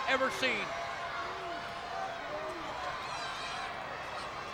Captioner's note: crowd yelling